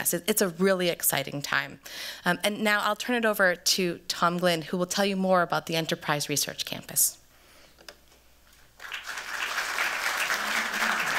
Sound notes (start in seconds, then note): 7.1 applause